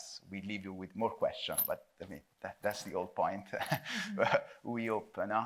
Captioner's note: chuckles